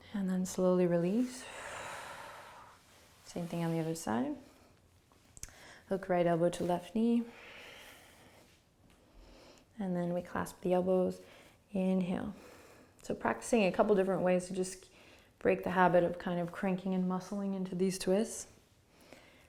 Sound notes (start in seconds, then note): 1.3 exhaling